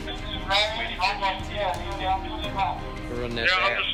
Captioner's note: radio Sounds